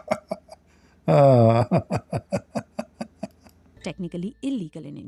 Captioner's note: Ketawa